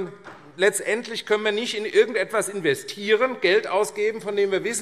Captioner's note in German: none